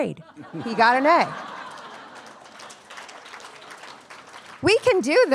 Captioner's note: attendees laughing and applauding